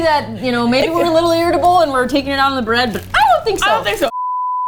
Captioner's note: laughs; high voice